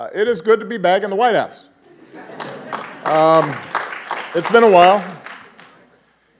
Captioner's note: applause